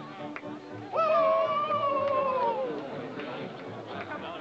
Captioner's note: men howl